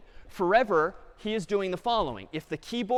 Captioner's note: none